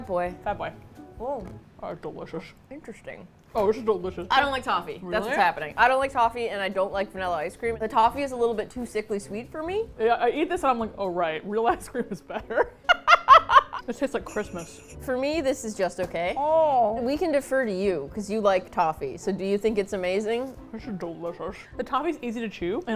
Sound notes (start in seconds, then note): 12.4 laughs